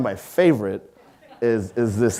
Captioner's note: audience laughing